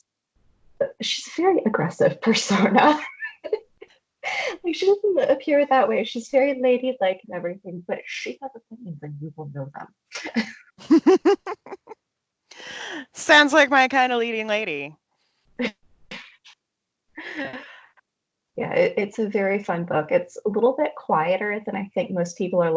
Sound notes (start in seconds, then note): 9.1 audio distortion